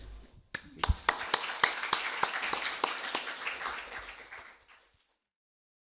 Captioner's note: applause